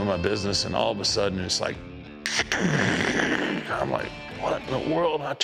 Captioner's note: makes crashing noise